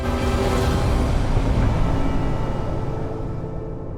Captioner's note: waves crashing; boat droning; intense music